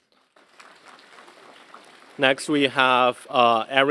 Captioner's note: applause